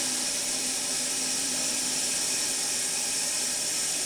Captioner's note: saw whirring